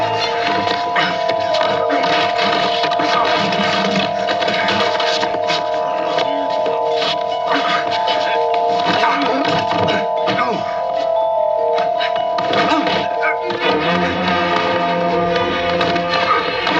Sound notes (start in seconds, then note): 1.1 todos resmungando; 13.9 música dramática